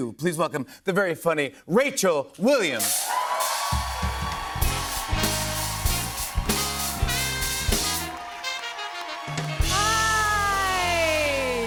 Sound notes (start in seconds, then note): 3.2 cheers and applause